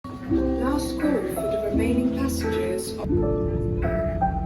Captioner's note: airport announcement